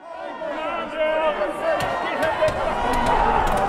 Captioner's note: crowd shouting